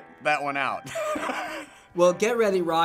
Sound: laughing

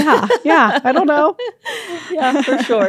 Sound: laughs

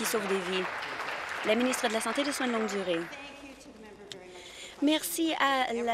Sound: applause

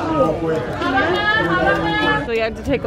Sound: yelling in foreign language

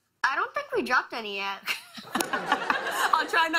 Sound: laughter

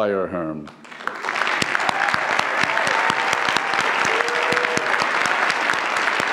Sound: audience applauds; audience cheers

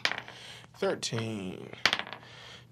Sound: dice clacks; dice clacks

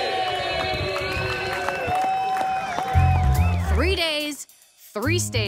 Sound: crowd cheers

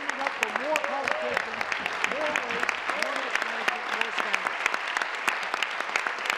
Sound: applause

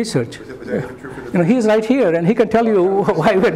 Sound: laughter

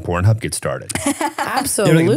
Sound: laughing

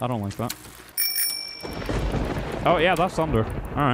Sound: bike bell followed by thunder

